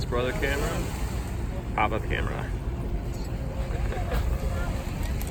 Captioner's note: heh heh heh